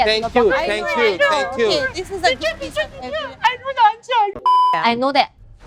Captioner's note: mocking noises